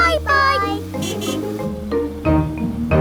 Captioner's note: horn honking